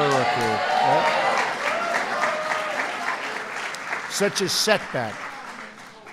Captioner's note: applause